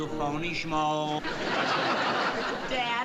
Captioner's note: audience laughing